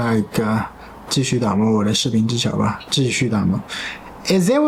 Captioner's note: reading Chinese